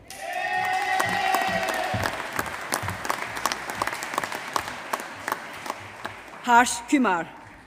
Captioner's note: applause